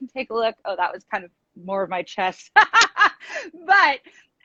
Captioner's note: laughs